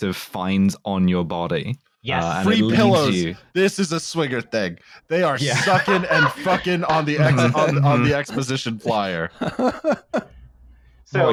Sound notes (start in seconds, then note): 5.3 laughs; 5.4 laughter